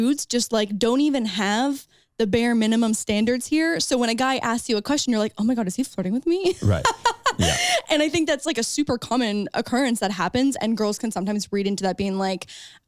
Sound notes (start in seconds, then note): 6.5 laughs